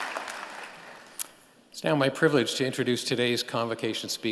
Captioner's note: applause